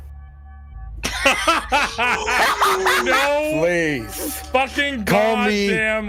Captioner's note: all laughing